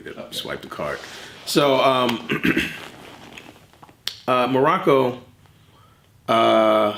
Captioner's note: clears throat